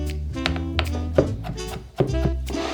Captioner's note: knife chopping